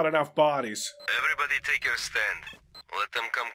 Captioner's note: radio